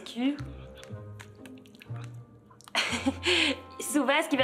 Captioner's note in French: rire